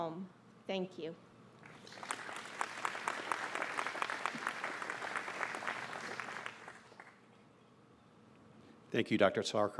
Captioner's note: applause